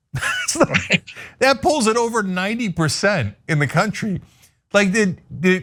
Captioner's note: laugh